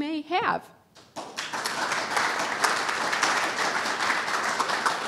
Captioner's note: audience applauding